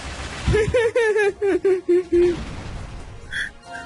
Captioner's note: laughs